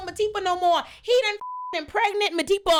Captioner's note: beep